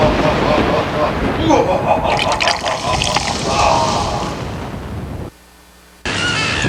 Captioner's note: ominous laugh; flowing liquid sounds